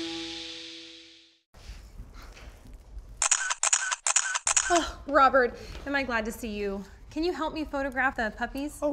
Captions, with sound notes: [CAMERA SHUTTER CLICKING] Oh, Robert. Am I glad to see you! Can you help me photograph the puppies?